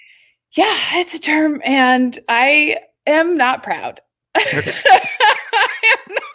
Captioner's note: laughs